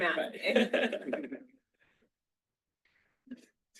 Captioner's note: all laughing